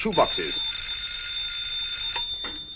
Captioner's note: phone ringing